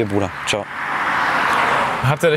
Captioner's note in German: Motorengeräusch